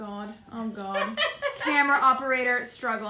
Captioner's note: laughs